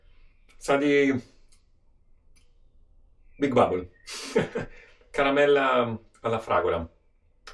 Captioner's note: puffing